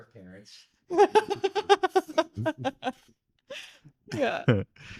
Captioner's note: laughing